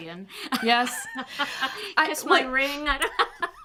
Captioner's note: chuckles